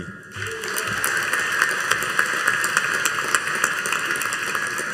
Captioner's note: audience applauding